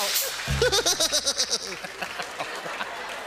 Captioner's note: Steve imitating "Wipeout" giggle